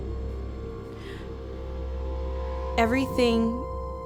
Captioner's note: inhales